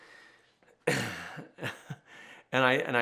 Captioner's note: laughs